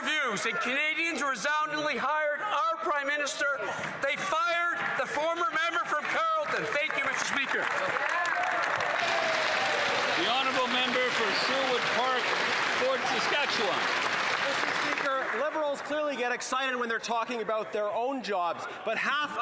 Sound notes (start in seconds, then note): 16.1 some Applause